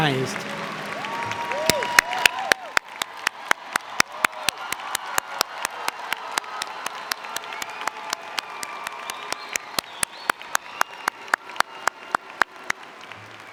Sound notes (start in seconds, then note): 0.0 applause & Cheer